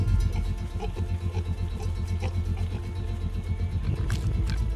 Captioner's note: pigs grunting